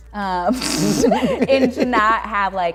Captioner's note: laughs